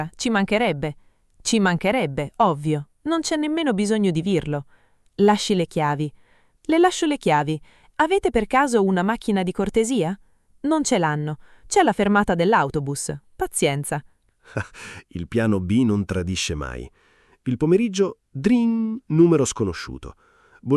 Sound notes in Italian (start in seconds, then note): 14.5 Haha